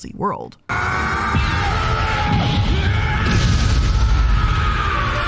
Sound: fierce yelling and explosions

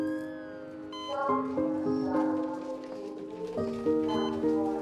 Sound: woman On Intercom

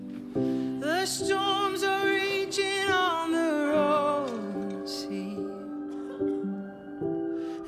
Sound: bell rings

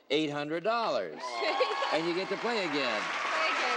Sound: applauding

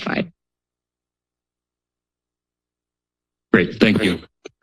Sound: silence

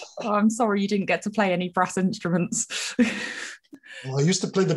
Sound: laughs

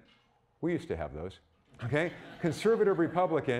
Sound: audience laughing

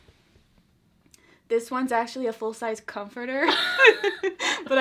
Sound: both laugh

